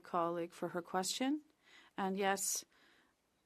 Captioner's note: speaking Indigenous Language